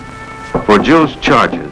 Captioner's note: knocking on the glass window